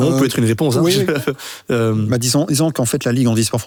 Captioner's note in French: rire